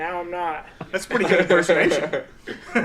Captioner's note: all laughing